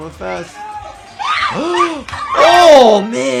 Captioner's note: gasping